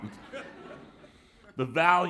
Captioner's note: laughter